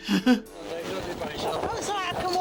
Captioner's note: chuckles; crew chattering